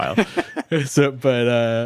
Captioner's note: laughs